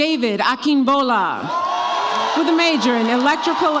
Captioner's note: audience applauds and cheers